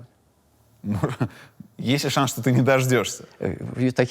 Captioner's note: chuckles